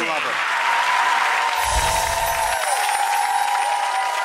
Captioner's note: cheers and claps